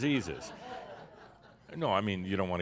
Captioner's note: some laughter